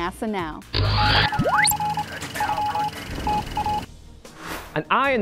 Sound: sound Effects

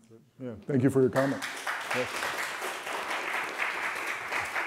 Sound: applause

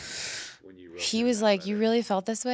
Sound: inhales

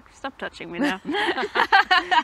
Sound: both laugh

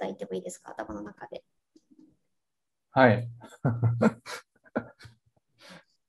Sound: laugh

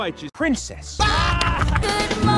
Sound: screaming

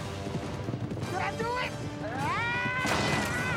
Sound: screams

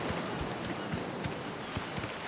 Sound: steps

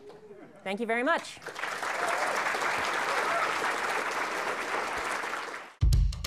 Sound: applause

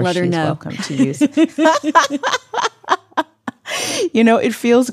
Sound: all laugh

